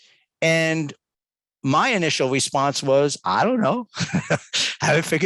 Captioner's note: laughs